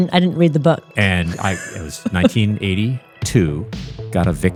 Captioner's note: laughing